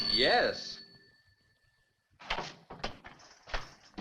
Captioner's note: phone rings